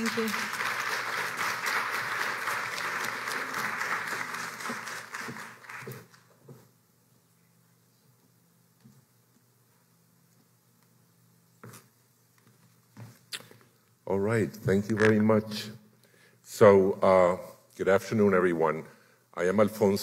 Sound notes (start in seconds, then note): 2.8 applause